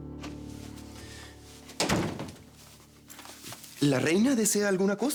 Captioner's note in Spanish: Portazo